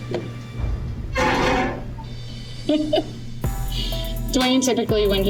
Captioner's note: metal scraping